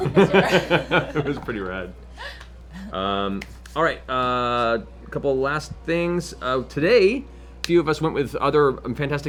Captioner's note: laughs